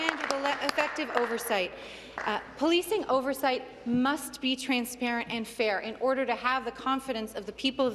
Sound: applause

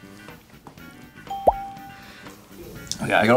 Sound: bell rings

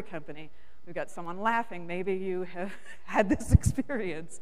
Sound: laughs

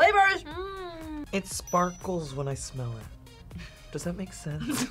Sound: both laugh; laughs

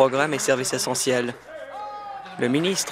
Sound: applause

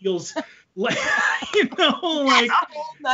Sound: both laugh

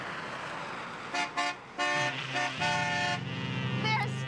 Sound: horn honks

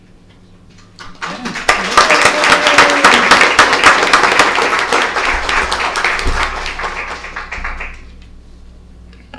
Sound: applause

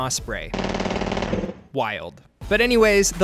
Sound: gunshots cracking

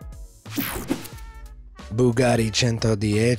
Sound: swooshes

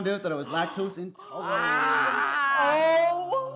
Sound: grunts

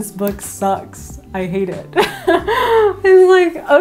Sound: laughs

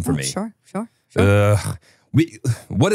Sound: laughs

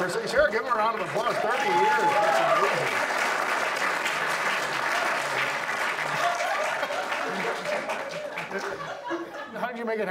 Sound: audience applauds

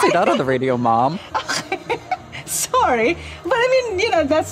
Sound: laughs

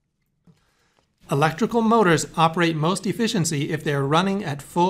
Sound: voiceover

